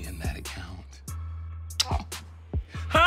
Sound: smooches

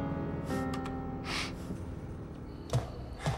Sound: sniffs

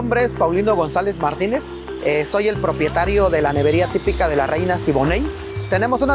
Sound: speaking in foreign language

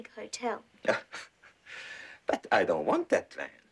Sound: Ishikawa laughs

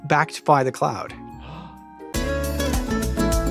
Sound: sharp inhale

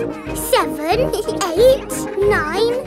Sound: both giggle

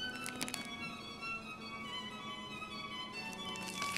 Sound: tape crackles

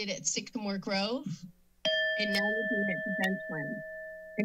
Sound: alarm sound

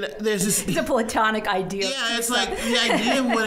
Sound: laughing; laughing

